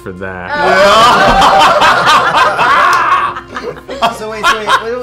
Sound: laughter

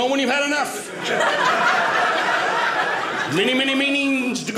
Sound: audience laughing

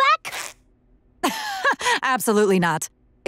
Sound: laughing

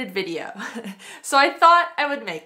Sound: laughs

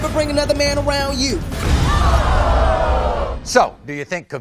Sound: audience screaming

